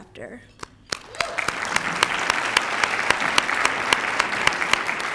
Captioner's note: applause